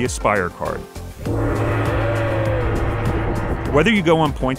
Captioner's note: gongs